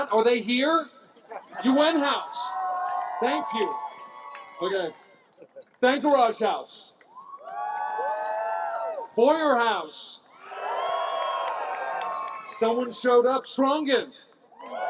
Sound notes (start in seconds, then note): 1.5 cheering, applause